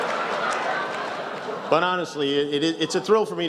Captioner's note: laughter